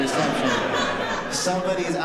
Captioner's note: laughter